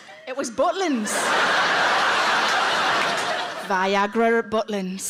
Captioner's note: audience laughs